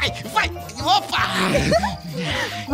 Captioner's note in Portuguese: riso